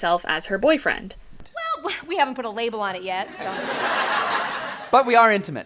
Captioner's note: laughter